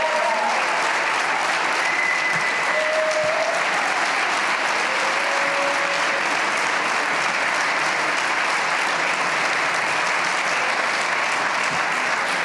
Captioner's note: cheers and applause